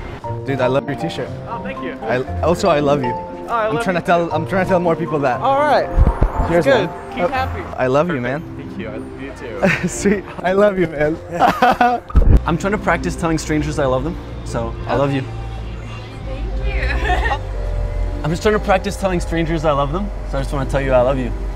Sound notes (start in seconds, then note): 9.6 laughing; 16.7 laughing